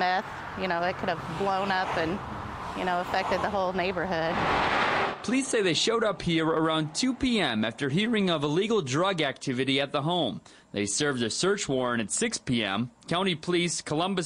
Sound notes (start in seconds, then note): 4.7 / :nats of cars